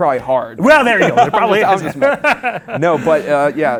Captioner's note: laughs